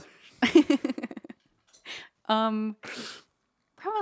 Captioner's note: laughing